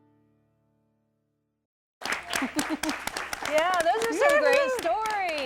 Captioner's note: �applause�